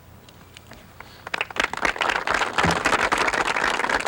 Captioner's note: audience applauds